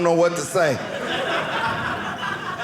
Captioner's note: audience laughing